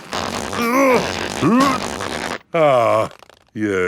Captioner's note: grunting